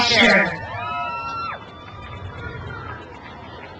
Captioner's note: crowd cheers